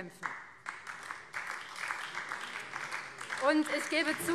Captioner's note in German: Beifall